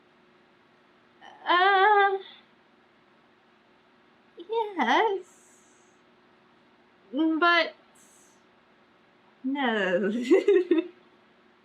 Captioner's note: laughs